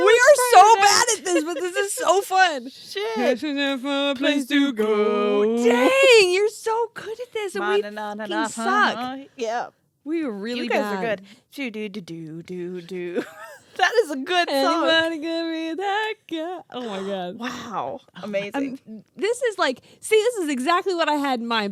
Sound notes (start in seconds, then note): 3.7 humming; 8.7 humming; 11.8 humming